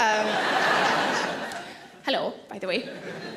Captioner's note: audience laughing